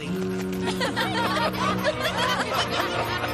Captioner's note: laughter